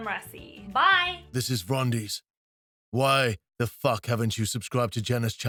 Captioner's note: rumbling Male Voice